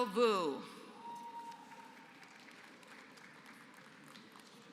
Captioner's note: applause